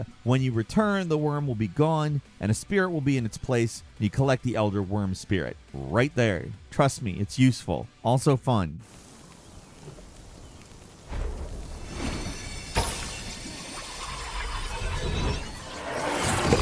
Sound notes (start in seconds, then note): 10.7 wind gently rustling; 13.1 mythical music